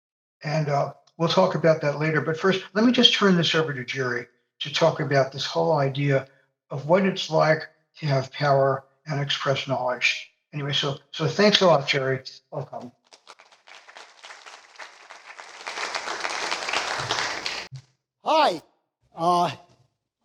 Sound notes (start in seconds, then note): 13.0 applause